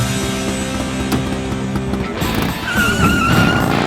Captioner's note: tires squeal